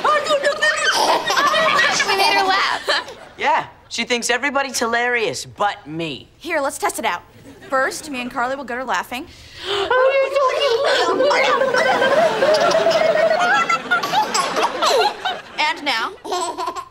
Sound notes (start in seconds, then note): 0.0 giggling; 10.7 making silly noises; 13.6 giggling